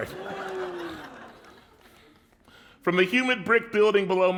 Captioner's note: laughter